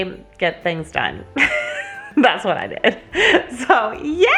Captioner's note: laughs